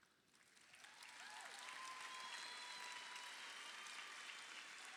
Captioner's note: crowd cheering